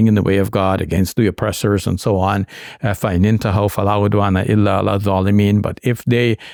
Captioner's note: speaking Arabic